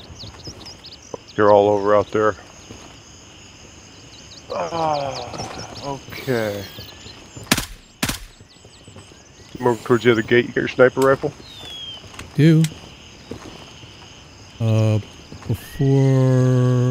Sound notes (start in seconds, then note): 4.6 sigh